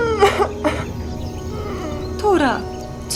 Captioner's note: sobs